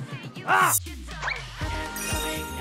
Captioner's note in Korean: 휘익